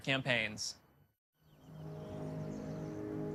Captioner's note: birds chirping